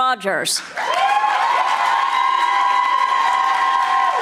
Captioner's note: audience applauding